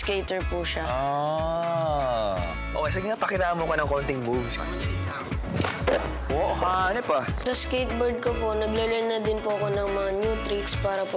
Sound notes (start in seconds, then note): 5.4 skateboard thuds